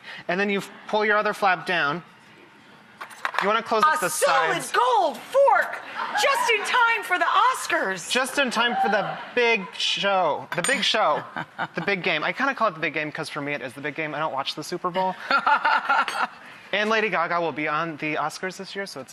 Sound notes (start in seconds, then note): 15.1 laughing